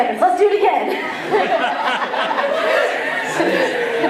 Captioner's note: laughter